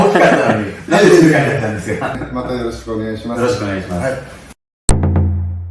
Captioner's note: laughs